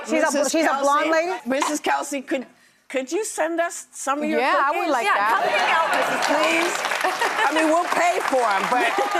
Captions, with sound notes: She's a blonde lady. Mrs. Kelsey, could you send us some of your cookies? Yeah, I would like that. Yeah, come and get them. Mrs. Kelsey, please. (audience applauds) I mean, we'll pay for them, but.